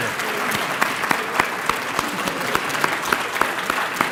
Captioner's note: applause